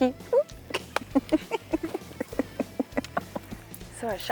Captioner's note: laughing